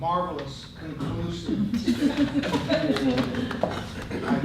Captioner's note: laughter